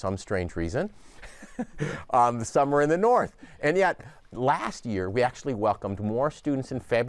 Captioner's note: laughs